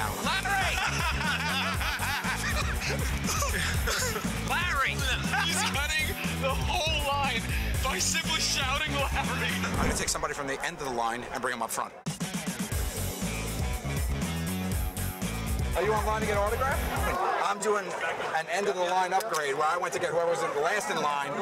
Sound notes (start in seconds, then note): 0.2 laughter